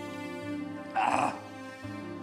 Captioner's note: grunts